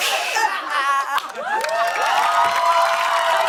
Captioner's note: cheers and applause